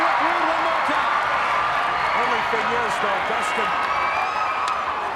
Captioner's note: applause